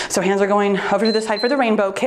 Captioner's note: timer beeps